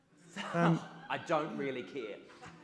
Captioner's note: audience laughs